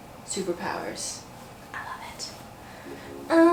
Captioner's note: whisper